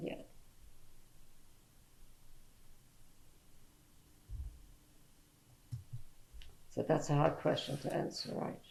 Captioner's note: pauses for 6 seconds